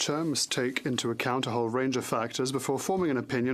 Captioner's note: speaking French